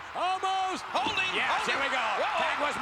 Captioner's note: spectators cheering